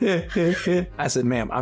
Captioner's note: imitates Eddie Murphy's laugh